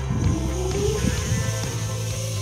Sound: motor sound

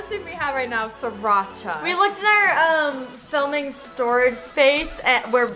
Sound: none

